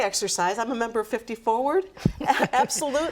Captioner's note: laughs